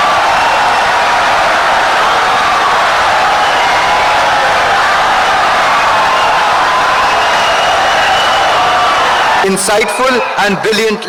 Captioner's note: wild applause and cheering for 17 seconds